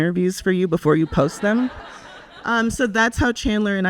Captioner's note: audience laughs